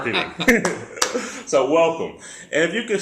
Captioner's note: laugh